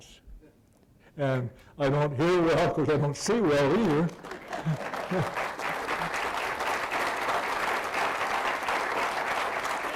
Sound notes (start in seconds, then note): 3.5 applause